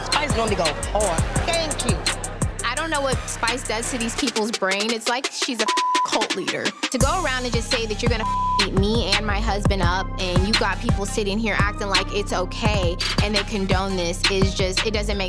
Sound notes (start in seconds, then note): 5.6 beep